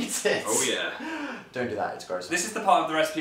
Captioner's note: laughs; inhales